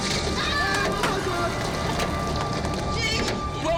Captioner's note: people shouting; man 2 shouts; man 2 stutters